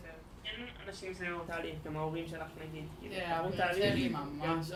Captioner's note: speaking foreign language